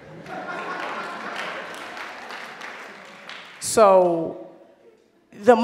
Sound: audience laughs and applause

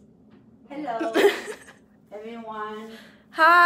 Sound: laughs

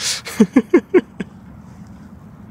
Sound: laughs

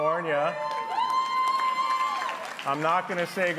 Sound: applause

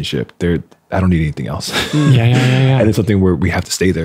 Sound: laughing

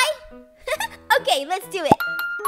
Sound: laughs

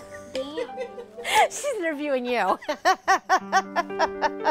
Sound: laughing

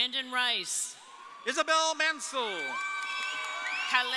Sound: audience cheering

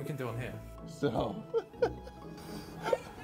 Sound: laughs

